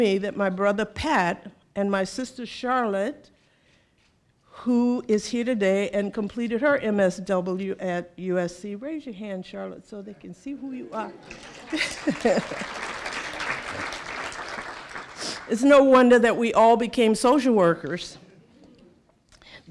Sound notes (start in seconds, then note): 11.2 applause